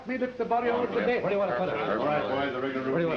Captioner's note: general conversation